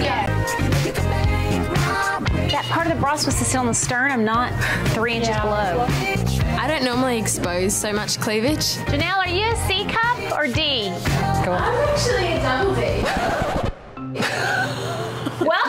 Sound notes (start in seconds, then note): 0.2 lighthearted music; 12.7 record scratches; 14.2 laughs